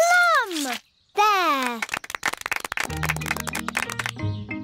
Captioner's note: applause